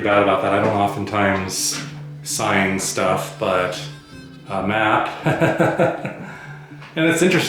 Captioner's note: laughs